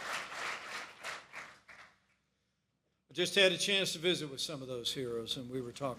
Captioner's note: applause